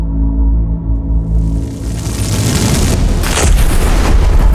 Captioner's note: suspenseful music; flames crackle; explosions thump